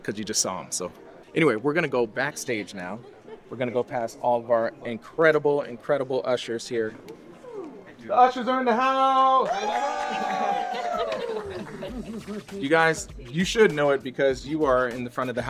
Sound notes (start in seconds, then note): 8.7 ushers cheer